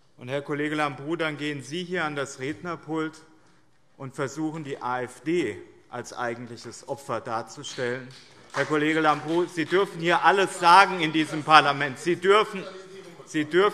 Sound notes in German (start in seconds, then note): 7.6 Beifall BÜNDNIS 90/DIE GRÜNEN